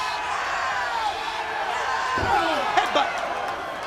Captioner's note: crowd chatter